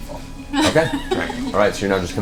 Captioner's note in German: lacht